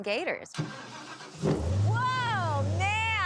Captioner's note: engine starting